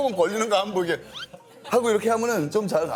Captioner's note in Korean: 흐음